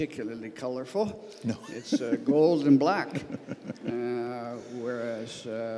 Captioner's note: laughs